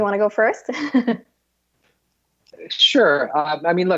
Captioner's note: Mai laughs